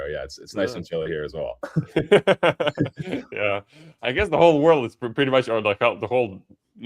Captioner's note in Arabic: ضحك